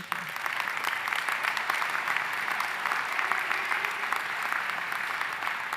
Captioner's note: audience applauding